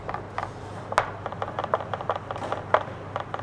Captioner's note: chopping sounds